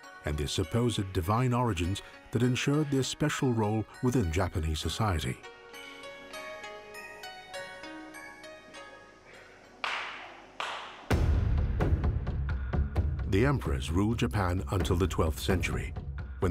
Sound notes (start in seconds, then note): 9.7 hands clapping; 10.6 intense percussion music